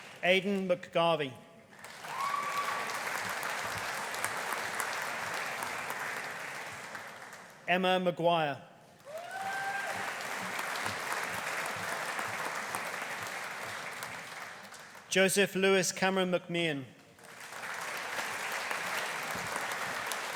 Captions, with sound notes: Aidan McGarvey. (AUDIENCE CHEERING) (AUDIENCE APPLAUDING) Emma McGuire. (AUDIENCE CHEERING) (AUDIENCE APPLAUDING) Joseph Lewis Cameron McMahon. (AUDIENCE APPLAUDING)